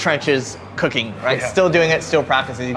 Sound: laughs

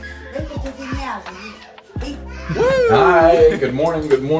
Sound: speaking Romanian

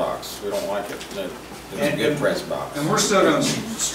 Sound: overlapping chattering

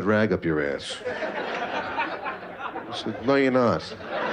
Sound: laughter

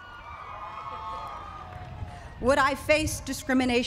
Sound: cheering

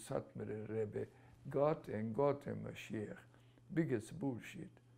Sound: non-english; non-english

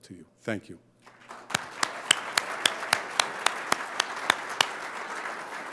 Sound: audience applauding

